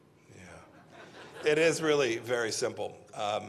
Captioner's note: laughter